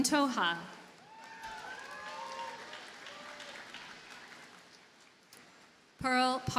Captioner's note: audience cheers and applauds